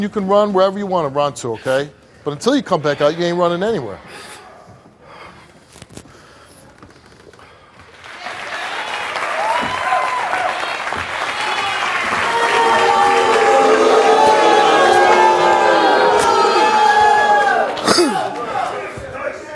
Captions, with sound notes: and you can run wherever you want to run to, okay? But until you come back out, you ain't running anywhere. (audience booing)